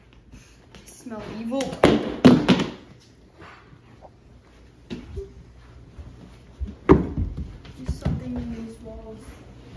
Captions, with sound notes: [SNIFF] Hmm, I smell evil! [CLATTERING] [THUD] There's something in these walls,